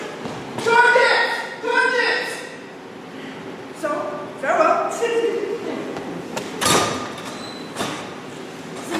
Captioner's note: door opens offscreen